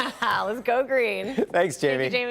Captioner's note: laughter